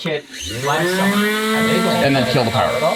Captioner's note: robot whirring